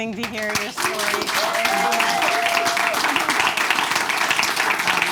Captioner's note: audience claps